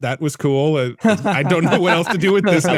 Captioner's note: laughing